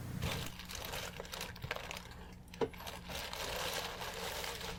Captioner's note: plastic rustles